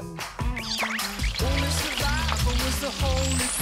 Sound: corn dogs are being fried

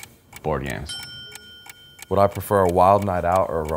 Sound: bell dinging

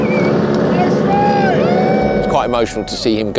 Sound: cheers

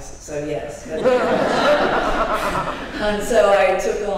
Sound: laughter

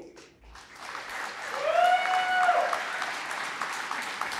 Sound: applause

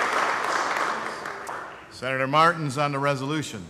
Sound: applause

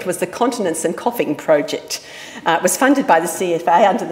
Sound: none

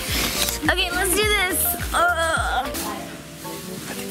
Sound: groans

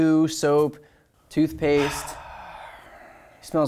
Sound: sighs

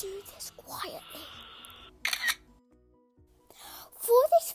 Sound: camera snap

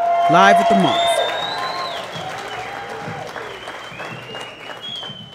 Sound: audience cheering

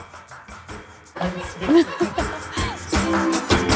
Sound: lively music; and crew members laugh; lively music continues

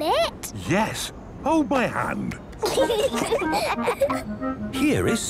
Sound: children giggling

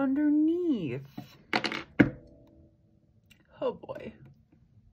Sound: drops pencil

